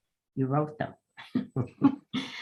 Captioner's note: laughs